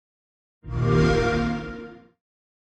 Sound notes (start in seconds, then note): 0.6 xbox sound